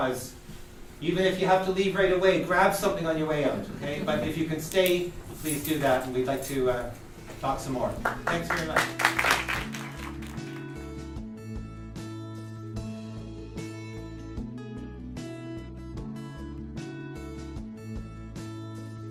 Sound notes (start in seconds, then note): 3.1 audience laughter; 8.0 audience applause